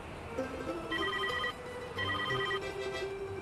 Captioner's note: car horns honking; ringing